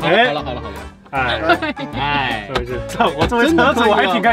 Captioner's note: laughter